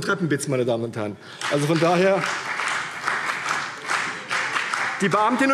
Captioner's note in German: Beifall CDU und vereinzelt BÜNDNIS 90/DIE GRÜNEN